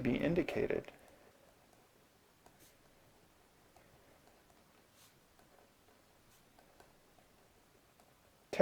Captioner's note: writing